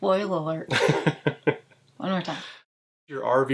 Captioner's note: laughs